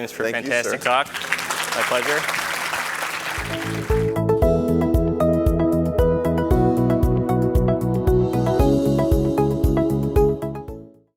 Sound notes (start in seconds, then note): 2.8 audience applauds; 3.4 bright upbeat music